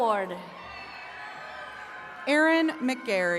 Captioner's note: attendees cheering